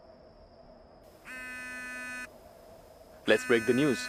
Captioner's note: phone rings